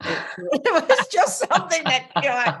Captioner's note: laughs